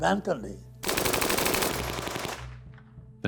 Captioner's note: machine gun fire